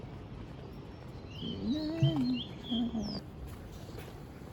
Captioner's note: the birds started chirping